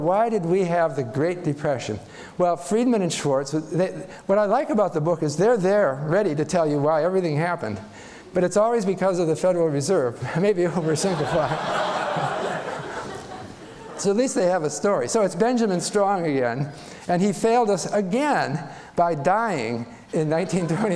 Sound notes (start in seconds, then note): 10.7 laughter